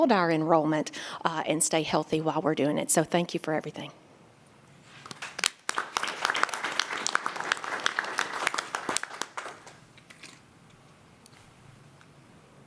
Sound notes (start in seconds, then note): 4.9 applause